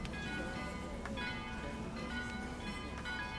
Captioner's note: church bells tolling